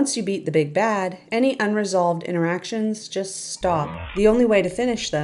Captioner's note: slow record scratch